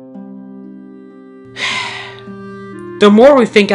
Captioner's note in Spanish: Suspiro